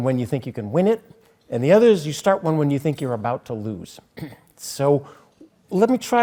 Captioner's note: cough